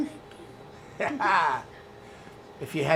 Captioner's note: laughter